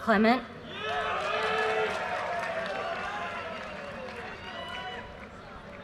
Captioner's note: audience cheers and applause